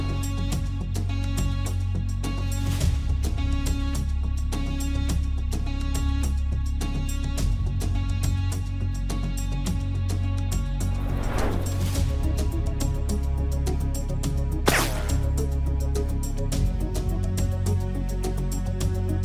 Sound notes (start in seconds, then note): 0.0 suspenseful music continues; 8.7 suspenseful music continues; 10.8 transition whooshing; 12.1 suspenseful music continues; 14.6 bullet whizzing; 15.8 suspenseful music continues